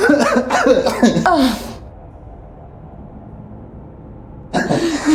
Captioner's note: both chuckling; Tina groans; both chuckling